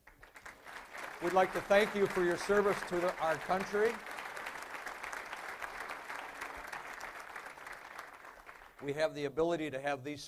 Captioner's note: applause